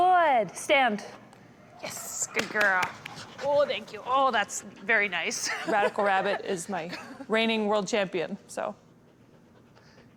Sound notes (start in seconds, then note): 2.3 claps; 5.4 laughs